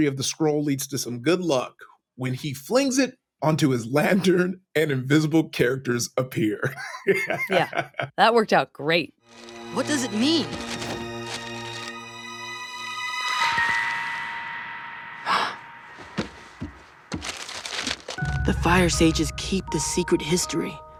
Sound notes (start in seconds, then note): 14.7 gasping